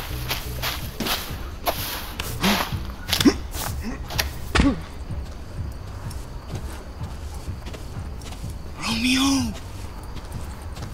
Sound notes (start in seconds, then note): 0.2 footsteps; 3.0 grunt; 6.4 footsteps; 8.7 whispered